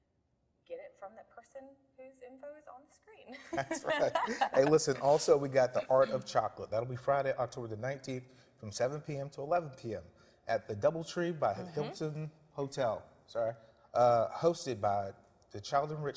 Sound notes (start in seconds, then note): 3.4 laughing